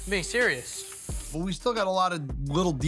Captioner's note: nozzle spraying